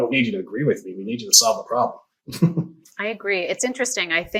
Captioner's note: laughs